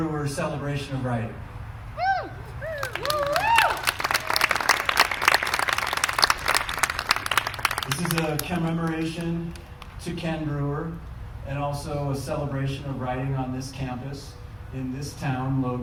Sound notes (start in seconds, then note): 2.7 applause